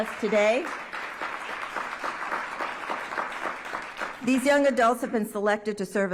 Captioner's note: applause